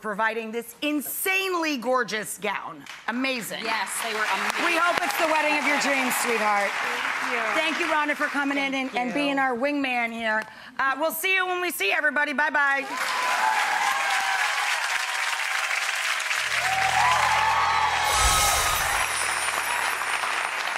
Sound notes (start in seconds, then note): 12.8 applause; 18.1 tinkly music